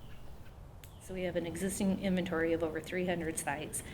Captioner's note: voiceover